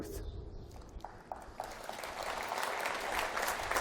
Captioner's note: applause